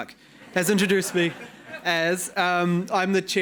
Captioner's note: audience laughing